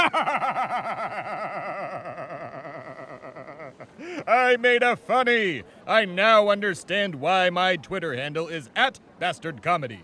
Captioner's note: bastard laughs